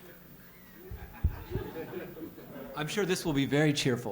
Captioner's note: laughter